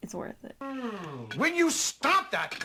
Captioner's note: even louder nummy noises